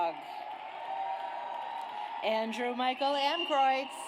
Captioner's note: audience cheers